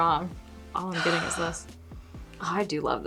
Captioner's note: exhaling